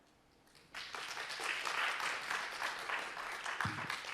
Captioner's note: crowd applauding